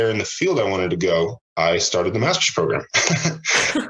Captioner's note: laughs